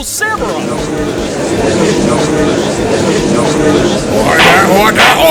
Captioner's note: gallery chattering